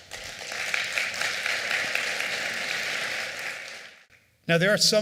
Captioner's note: applause